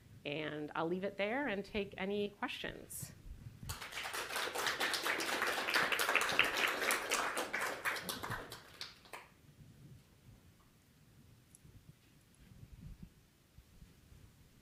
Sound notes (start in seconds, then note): 3.6 applause